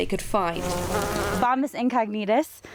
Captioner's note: bees buzz